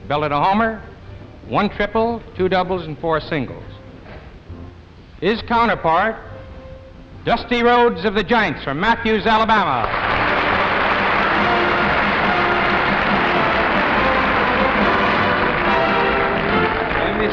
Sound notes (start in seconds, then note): 9.8 audience applauding